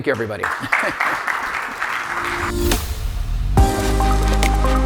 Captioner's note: audience applauding; upbeat music